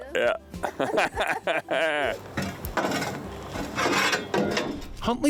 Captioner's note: chuckles